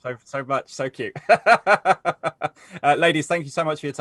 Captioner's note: laughs